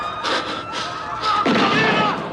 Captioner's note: breathing heavily